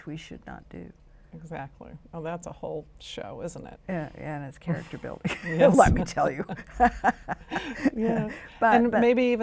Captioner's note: chuckles